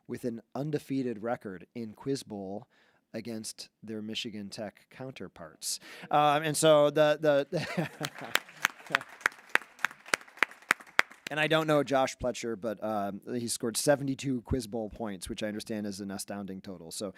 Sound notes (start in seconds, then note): 7.8 board applauding